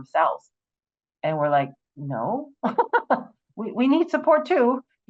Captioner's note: laughs